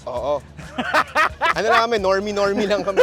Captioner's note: laughs